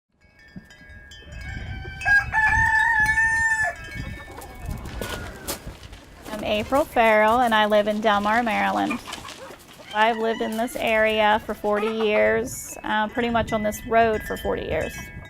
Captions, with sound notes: [rooster crowing] I’m April Ferrell and I live in Delmar, Maryland. I’ve lived in this area for 40 years, pretty much on this road for 40 years.